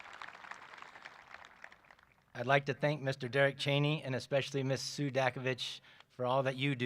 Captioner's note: applause